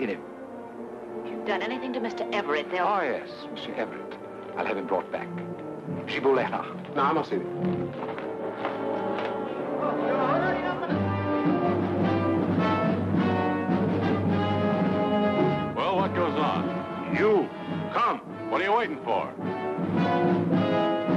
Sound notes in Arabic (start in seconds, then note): 7.1 يتحدث لغة أجنبية; 8.0 الرجل يتكلم لغة أجنبية; 11.1 الناس يتحادثون; 12.4 موسيقى مشؤومة; 20.9 موسيقى مشؤومة